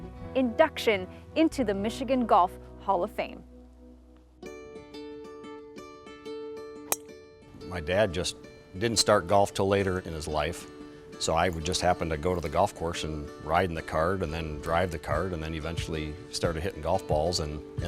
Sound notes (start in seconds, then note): 4.7 relaxed music; 6.9 golf ball thuds